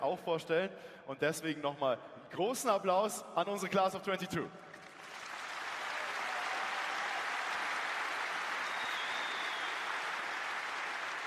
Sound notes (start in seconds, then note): 4.7 applause